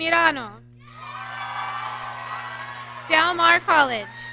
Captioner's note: audience cheering